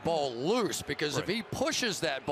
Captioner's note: cheering